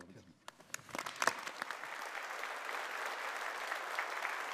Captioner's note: audience applauding